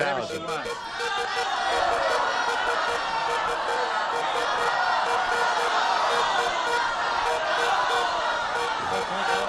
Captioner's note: cheering